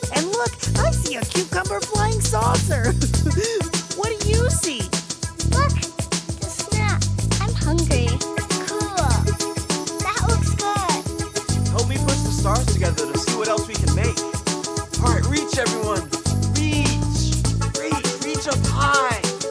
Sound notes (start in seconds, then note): 2.7 laughing